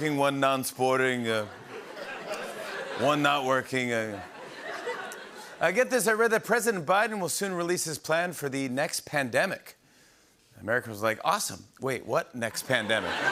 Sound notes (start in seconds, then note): 1.4 laughter; 12.5 laughter